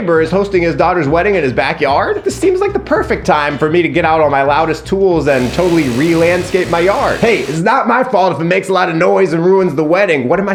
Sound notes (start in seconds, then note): 5.3 hedge trimmer whirring